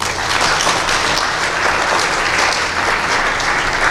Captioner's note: applause